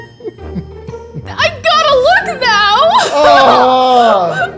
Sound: laughs

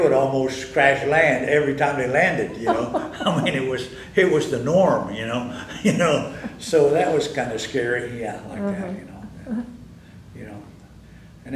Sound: laughter

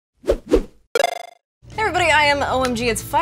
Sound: video game sounds

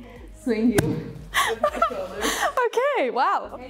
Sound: chuckles

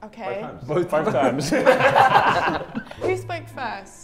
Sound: Sidemen laugh

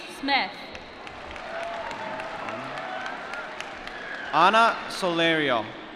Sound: applause

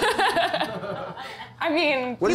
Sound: laughs

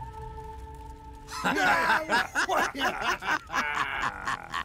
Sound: laughing

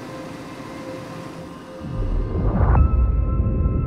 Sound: engine shuts off

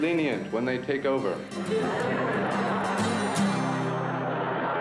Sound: laughing

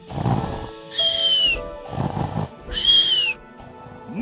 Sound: snoring

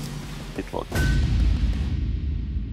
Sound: metal clangs

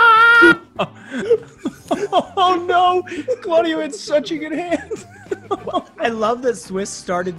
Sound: laugh

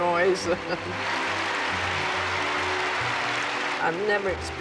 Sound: chuckling; spectators cheering and applauding

